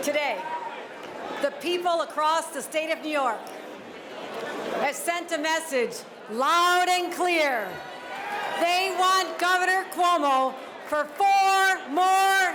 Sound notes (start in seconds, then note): 9.5 cheers and applause